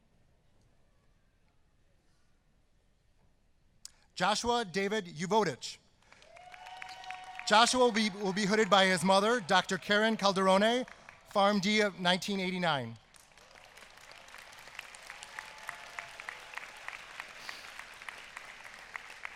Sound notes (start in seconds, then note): 8.3 applause